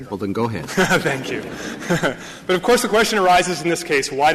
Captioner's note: laughter